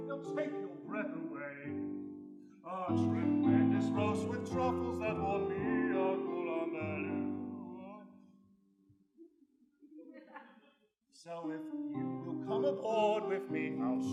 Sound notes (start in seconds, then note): 9.9 laughter